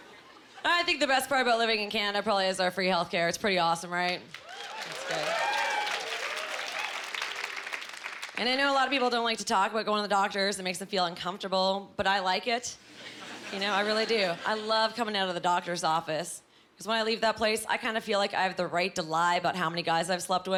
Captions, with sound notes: I think the best part about living in Canada probably is our free health care. It’s pretty awesome, right? (Cheering) And I know a lot of people don’t like to talk about going to the doctor’s. It makes them feel uncomfortable. But, I like it. You know, I really do. I love coming out of the doctor’s office. ’Cause when I leave that place, I feel like I have the right to lie about how many guys I’ve slept with.